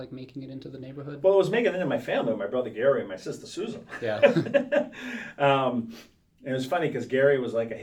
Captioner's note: laughs